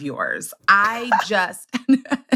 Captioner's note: laughs